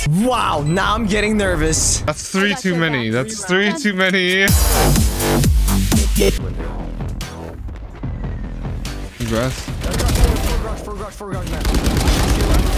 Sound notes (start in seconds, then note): 4.4 upbeat music; 9.3 guns firing